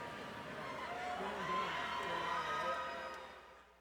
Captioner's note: crowd cheering